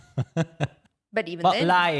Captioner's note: laughing